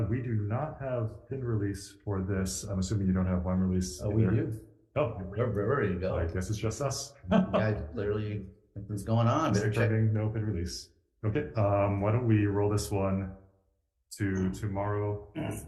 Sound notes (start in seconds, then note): 7.3 member laughs